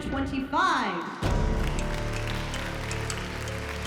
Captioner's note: crowd cheering